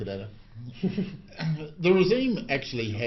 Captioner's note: laughs